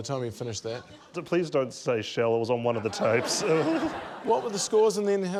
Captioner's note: chuckles weakly